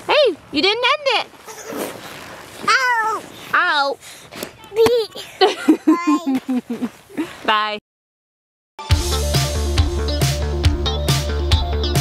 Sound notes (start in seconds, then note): 5.2 laughs; 8.8 lighthearted music